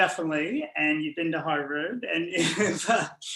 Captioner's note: laughs